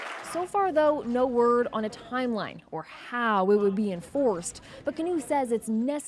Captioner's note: applause